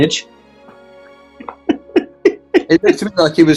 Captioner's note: giggling